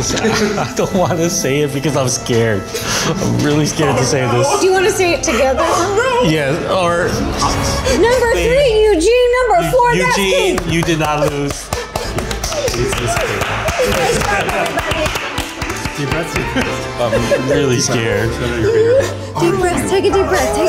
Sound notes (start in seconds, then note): 12.3 clapping